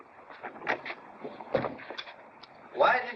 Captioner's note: door opens